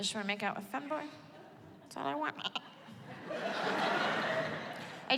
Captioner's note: mimics baaing